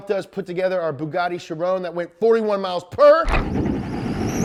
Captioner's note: screeching